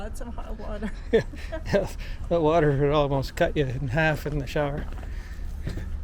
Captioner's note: laughing